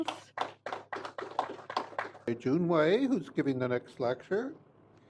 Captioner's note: applause